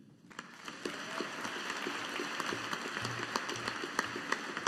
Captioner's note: audience applauding